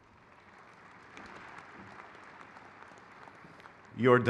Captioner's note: crowd claps